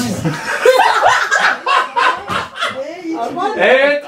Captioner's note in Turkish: kahkahalar